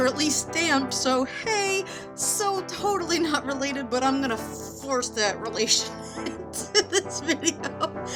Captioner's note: laughing